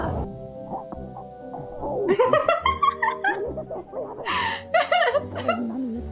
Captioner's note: laughs